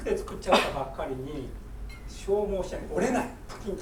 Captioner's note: speaking in foreign language; coughing